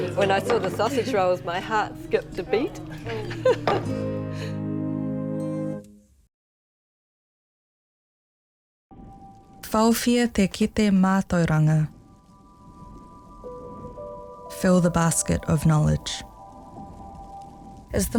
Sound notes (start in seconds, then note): 2.8 chuckles; 9.8 narrator speaks in te reo